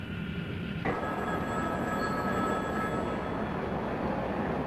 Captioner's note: phone ringing